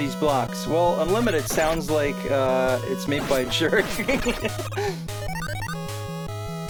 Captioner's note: laughs